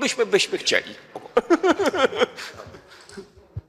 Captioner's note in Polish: śmiech